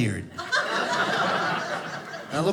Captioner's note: audience laughing